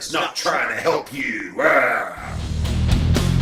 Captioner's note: roars